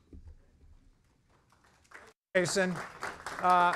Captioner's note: applause